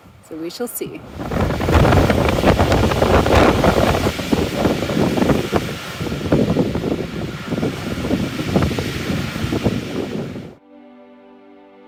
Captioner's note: strong wind blowing